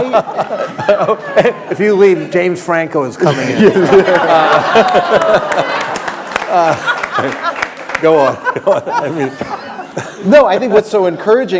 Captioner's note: laughter